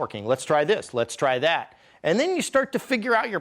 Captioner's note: none